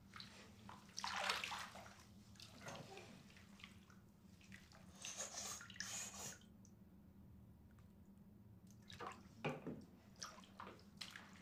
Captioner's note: water dripping and bath sound effects